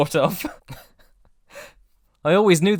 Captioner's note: laughs